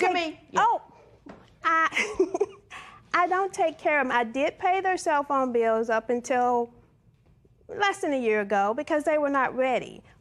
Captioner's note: laughs